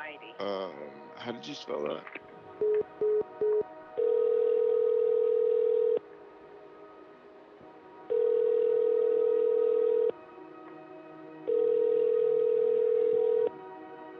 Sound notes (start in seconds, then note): 1.8 phone hangs up; 4.0 phone rings; 6.5 music builds; 8.1 phone rings; 11.4 phone rings